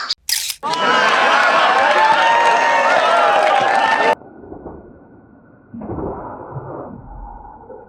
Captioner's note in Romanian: Aplauze